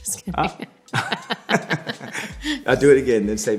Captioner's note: laughing